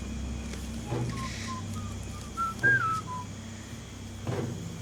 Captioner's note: whistling